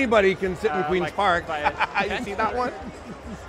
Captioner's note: laughing